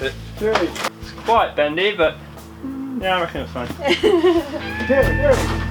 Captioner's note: laughter